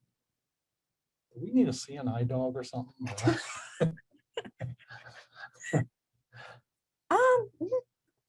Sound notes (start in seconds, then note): 3.0 both laugh